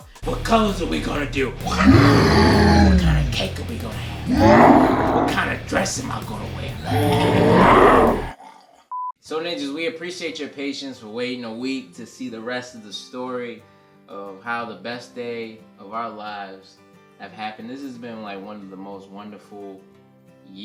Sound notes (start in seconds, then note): 1.6 growls; 8.4 growls